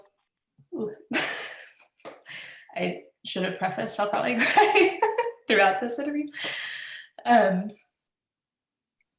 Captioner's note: laughs